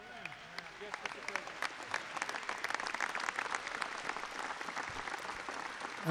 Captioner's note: laughter and applause